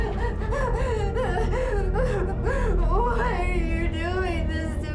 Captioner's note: heavy breathing